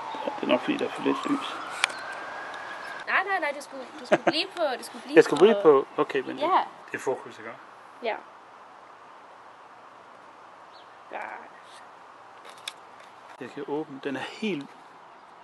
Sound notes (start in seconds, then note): 1.6 camera clicks; 3.9 laughs; 12.3 camera clicks